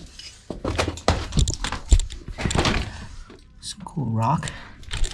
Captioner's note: boots clunking